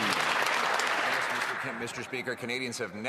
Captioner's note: cheering and Applause